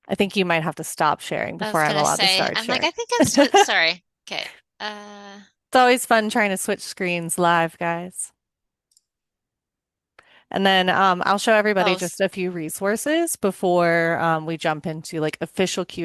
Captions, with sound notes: I think you might have to stop sharing before- I was gonna say- ... I'm allowed to start sharing. ... I'm like, "I think I'm still..." (laughs) Sorry. Okay. Uh... It's always fun trying to switch screens live, guys. And then, um, I'll show everybody- Those- ... just a few resources before, um, we jump into, like, official